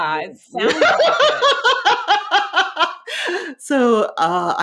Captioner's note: laughing